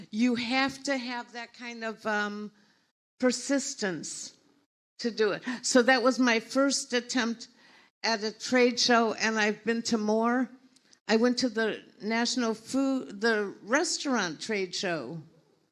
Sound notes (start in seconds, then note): none